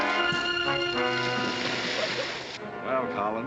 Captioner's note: water splashing